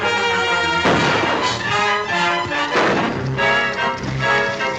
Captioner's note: gunshots - tense music